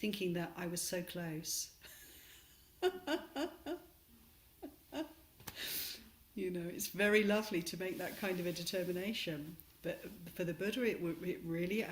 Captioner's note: laughs